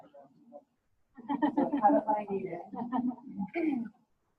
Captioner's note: overlapping laughter